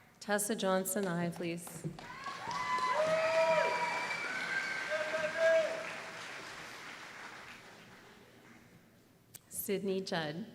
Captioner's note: applause